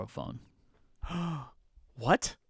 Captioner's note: gasps